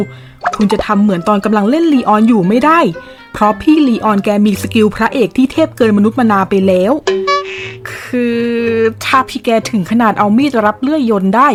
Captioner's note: haha